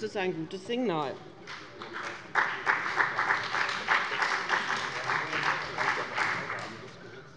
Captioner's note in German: Beifall bei dem BÜNDNIS 90/DIE GRÜNEN und der CDU